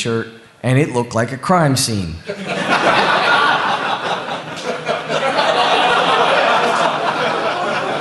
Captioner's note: laughter